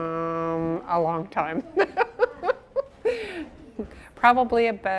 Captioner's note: she laughs